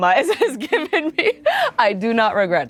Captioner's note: laughs